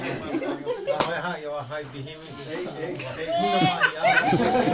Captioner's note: speaking Yanomami